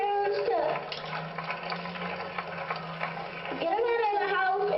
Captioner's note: applause